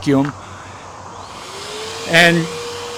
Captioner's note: vacuum motor whirring